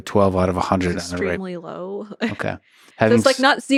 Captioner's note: chuckles